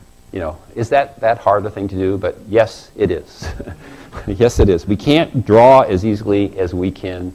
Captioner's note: laugh